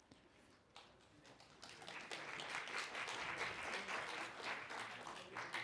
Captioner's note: applause